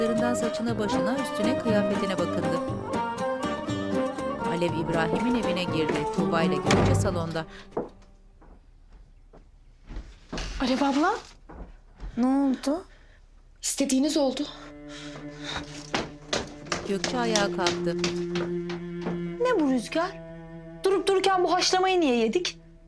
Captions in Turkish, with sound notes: (Müzik - Neşeli) (Kapı kapanma sesi) Alev abla? -Ne oldu? -İstediğiniz oldu. Ne bu rüzgâr? Durup dururken bu haşlamayı niye yedik?